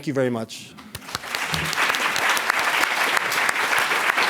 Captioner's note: applause